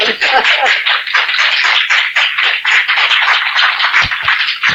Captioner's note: audience applauding